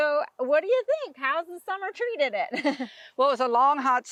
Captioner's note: laughing